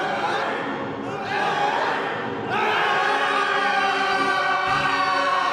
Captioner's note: all yell